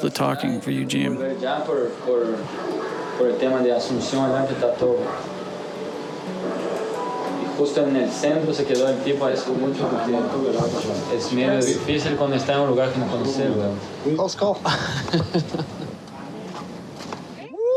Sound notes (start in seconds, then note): 4.9 speaking In Foreign Language